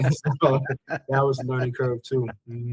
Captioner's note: laughing